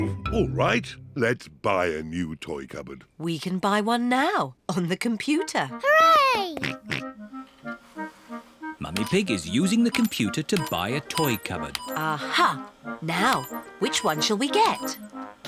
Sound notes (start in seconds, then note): 7.4 snorts